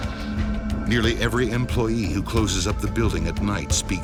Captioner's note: voiceover